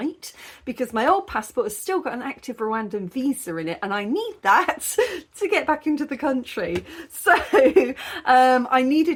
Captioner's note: laughing